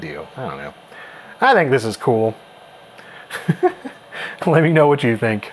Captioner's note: laughs